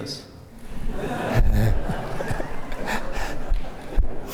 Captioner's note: laughter